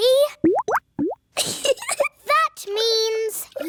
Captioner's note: bubbling; giggles